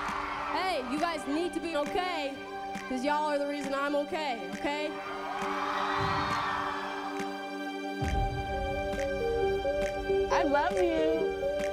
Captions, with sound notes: Hey, you guys need to be okay 'cause y'all are the reason I'm okay, okay? [cheers] I love you.